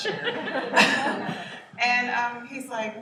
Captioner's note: laughter